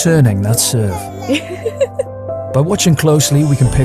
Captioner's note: mom laughs